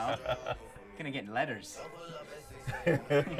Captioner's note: laughing